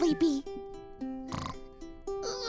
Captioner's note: snores